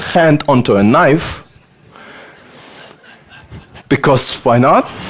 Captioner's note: audience laughter